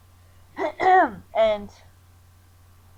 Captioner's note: clears throat